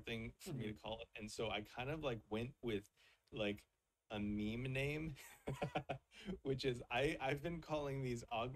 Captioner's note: chuckles